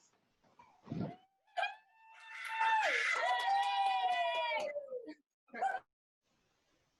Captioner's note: cheers